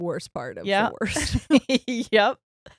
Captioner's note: laughing